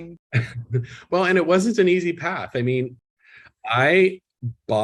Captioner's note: chuckles